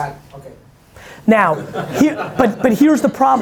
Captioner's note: laughing